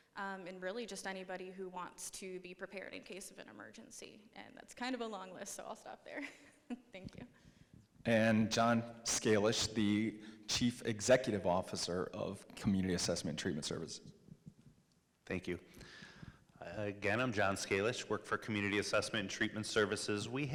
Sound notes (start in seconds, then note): 6.2 chuckles